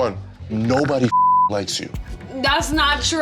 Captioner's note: beep